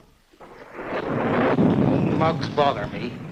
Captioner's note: thunder rumbling